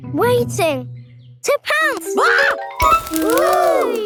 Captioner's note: screams